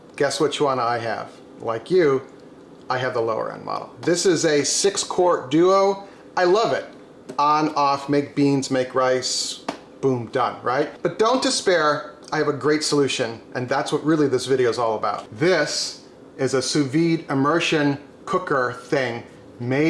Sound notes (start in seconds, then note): none